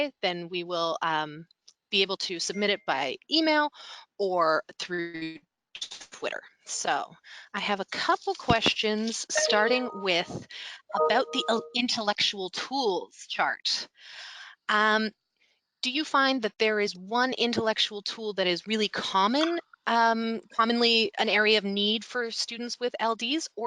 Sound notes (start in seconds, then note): 10.9 notification tone chiming